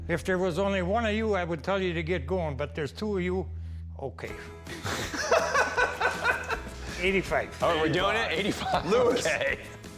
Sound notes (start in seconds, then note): 4.7 laughing